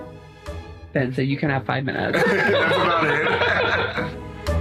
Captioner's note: laughs